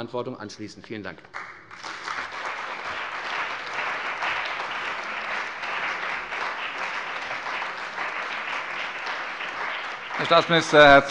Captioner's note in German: Beifall bei der CDU und dem BÜNDNIS 90/DIE GRÜNEN